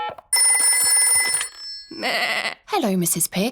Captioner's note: phone rings; bleats